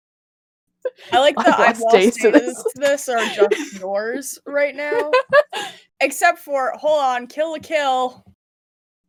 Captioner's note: laughs